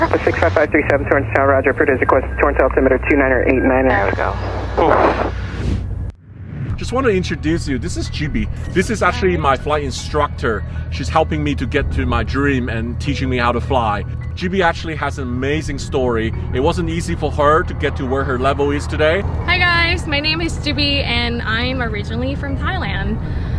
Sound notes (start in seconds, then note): 4.3 exhales